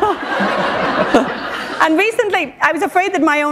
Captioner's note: laughter